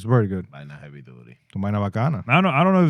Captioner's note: speaking In Foreign Language